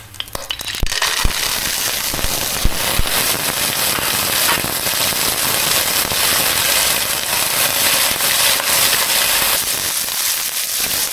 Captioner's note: sizzling